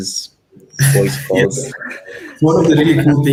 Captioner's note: laughs